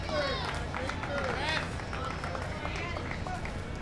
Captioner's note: crowd claps